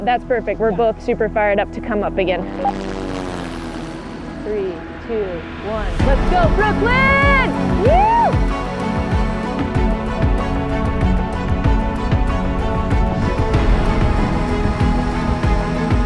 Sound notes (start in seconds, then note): 3.0 helicopter blades whirring; 10.2 dramatic music